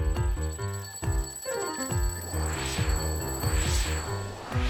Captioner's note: alarm clock ringing